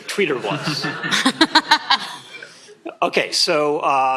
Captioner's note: laughter